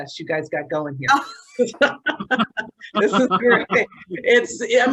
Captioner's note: all laughing